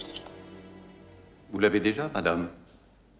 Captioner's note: speaking french